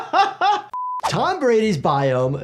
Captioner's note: laughs; test pattern beeps